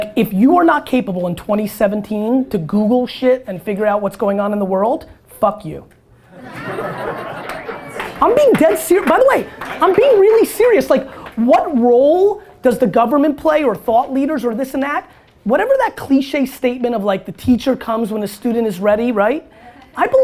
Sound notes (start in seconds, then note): 6.3 audience laughter